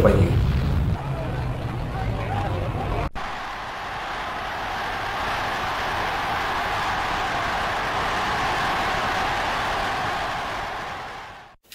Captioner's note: cheers